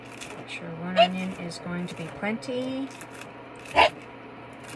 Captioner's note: bark